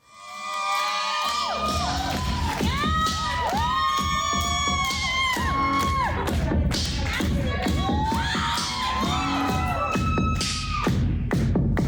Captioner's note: applause